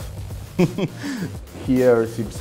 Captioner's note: chuckles